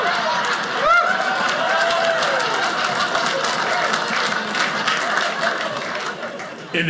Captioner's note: audience laughing; audience cheering